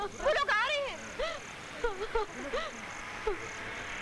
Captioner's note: Najma crying